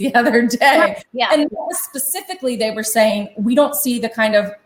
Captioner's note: chuckles